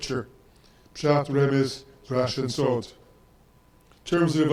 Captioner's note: speaks in foreign language